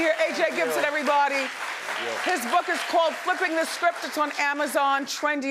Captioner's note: audience applauding